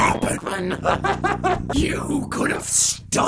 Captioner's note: high-pitched disorted laughter